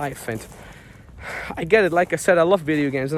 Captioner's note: exhales heavily